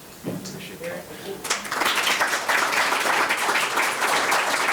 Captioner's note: members applauding